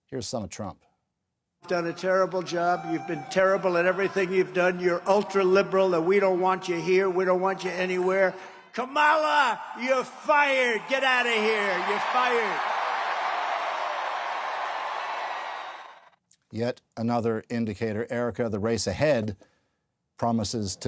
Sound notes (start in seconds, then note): 15.1 cheers and Applause